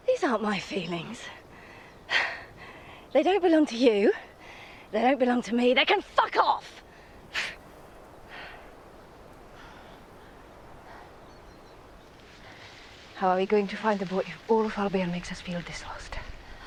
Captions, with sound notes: - These aren't my feelings. (scoffs) They don't belong to you. They don't belong to me. They can fuck off! (scoffs) - How are we going to find the boy if all of Albion makes us feel this lost?